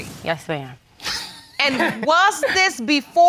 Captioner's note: laughs